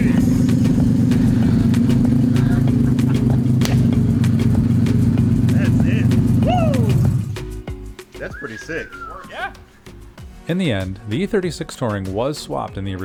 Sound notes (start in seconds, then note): 0.0 car engine rumbling; 3.1 hands smack